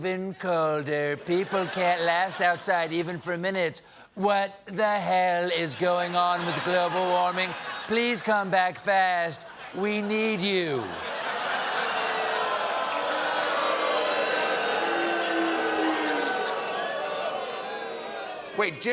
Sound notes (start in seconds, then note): 9.3 laughter; 10.7 booing